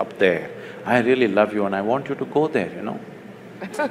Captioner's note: laughter; laughs